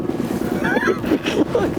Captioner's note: laughter